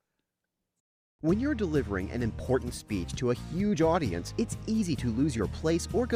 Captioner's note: voiceover